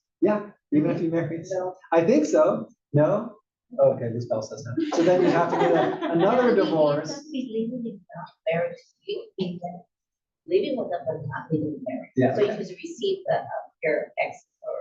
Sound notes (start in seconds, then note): 3.8 laugh